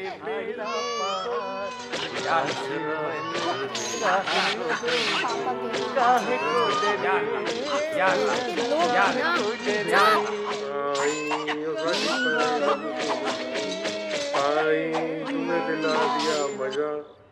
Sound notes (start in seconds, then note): 0.0 Neighbor singing romantic song; 0.3 Man singing in Telugu; 3.7 Action movie plays on tv